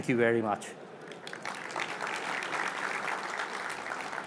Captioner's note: applause